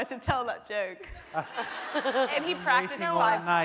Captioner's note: laughing